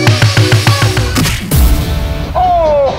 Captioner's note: Boxing punches